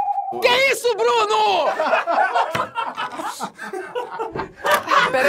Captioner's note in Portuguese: risadas